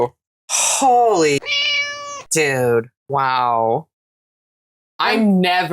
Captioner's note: meow